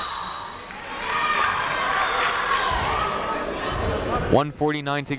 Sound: whistle tweeting; crowd applauding

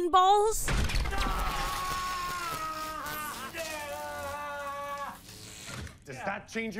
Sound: Vigilante screaming

